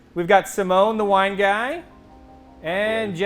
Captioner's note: none